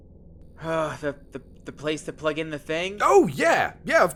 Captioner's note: sigh